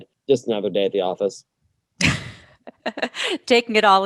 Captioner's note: laughs